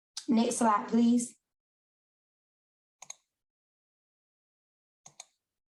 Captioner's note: keyboard clicks